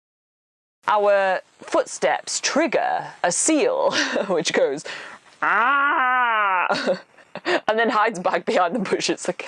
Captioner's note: seal roar